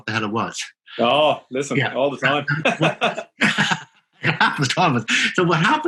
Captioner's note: laughing